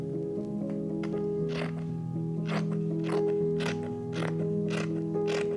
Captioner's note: scissors snipping